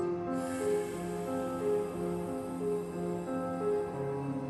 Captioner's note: mask hisses; subdued music continues